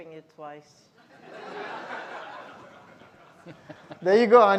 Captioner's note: all laughing